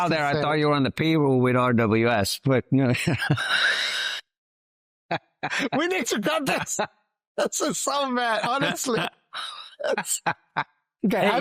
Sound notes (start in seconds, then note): 2.8 laughs; 7.4 laughs